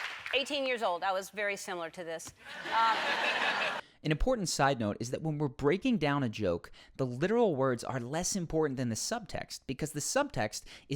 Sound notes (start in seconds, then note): 2.5 audience laughs